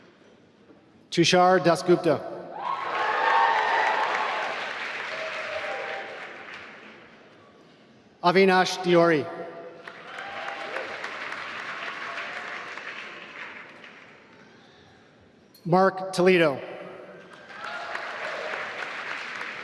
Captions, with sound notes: Tushar Dasgupta (applause) Avinash Deori (applause) Marc Toledo (applause)